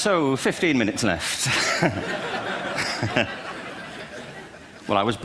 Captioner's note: laughter